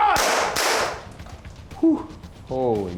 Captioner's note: gun firing